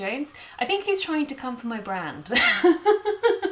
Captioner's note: laughs